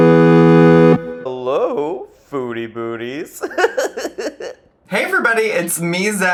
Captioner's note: upbeat music; laughs